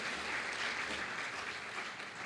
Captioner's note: applause